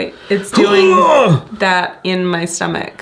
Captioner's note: grunting